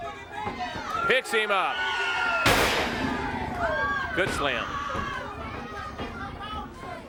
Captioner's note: body thudding